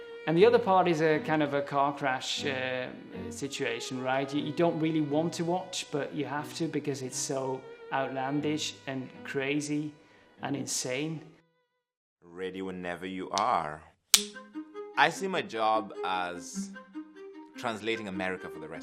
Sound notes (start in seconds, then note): 14.1 clapper clicking